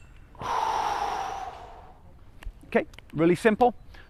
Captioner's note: inhales; exhales